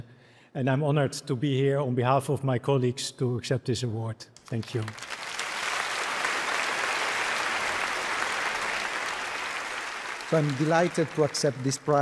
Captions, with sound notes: And I'm honored to be here on behalf of my colleagues to accept this award. Thank you. (applause) - I'm delighted to accept this prize